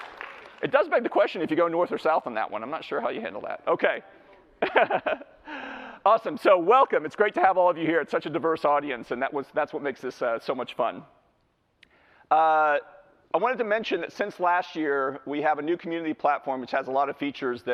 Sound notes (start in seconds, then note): 4.6 laughs